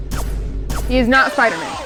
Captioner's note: air whizzes; air whizzing and rumbling